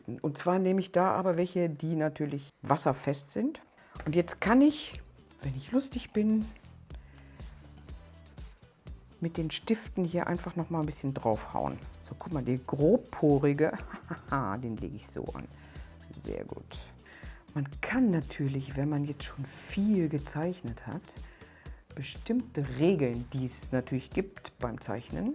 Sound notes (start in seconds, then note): 13.7 hehehe